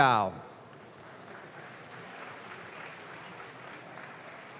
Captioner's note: audience claps